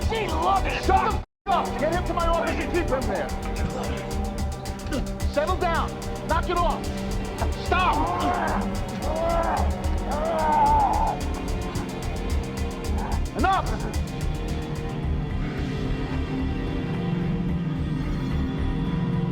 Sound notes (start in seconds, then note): 5.2 dramatic music; 8.7 dramatic music; 10.0 Frank growling; 10.7 Dodds growling; 12.3 dramatic music; 15.4 dramatic music